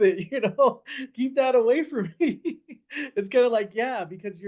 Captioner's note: laughs